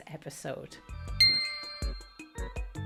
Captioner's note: groovy music; high-pitched ting